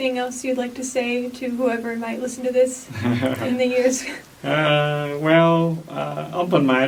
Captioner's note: laughs